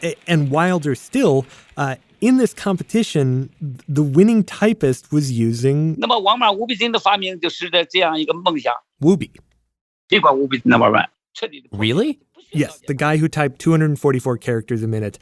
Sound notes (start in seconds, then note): 7.5 speaking Mandarin; 10.7 speaking Mandarin